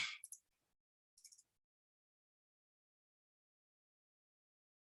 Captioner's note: mouse clicking